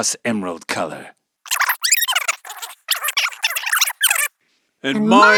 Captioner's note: fast-forwarded squeaky noises